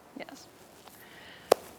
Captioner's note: sighs